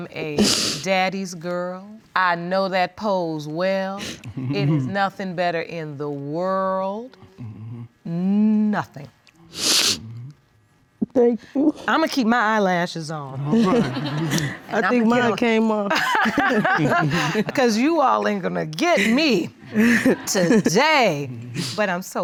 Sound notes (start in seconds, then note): 9.5 sniffles; 13.5 laughing